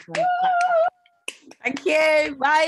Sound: both applaud

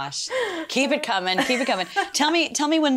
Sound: laughs

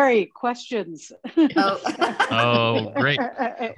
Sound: laughing

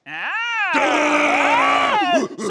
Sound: screams

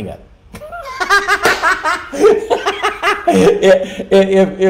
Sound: laughing

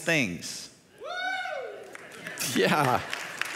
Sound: audience member cheers; audience claps

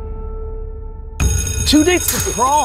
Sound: sustained piano note; bell ringing

